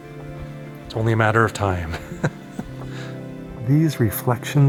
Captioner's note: laughter